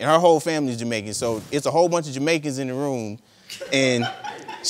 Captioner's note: audience laughing